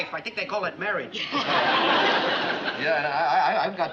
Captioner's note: chuckles